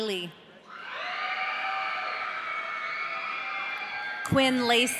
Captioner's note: audience cheering